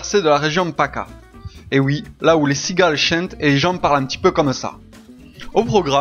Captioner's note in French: accent du sud